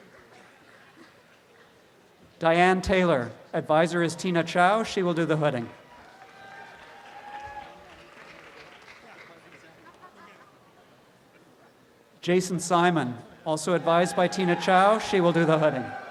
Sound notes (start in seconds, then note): 0.0 audience applause; 6.0 audience applause